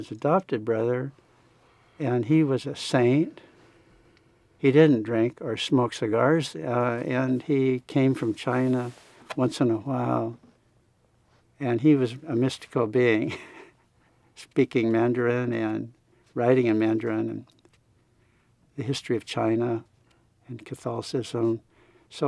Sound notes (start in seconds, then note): 13.2 chuckling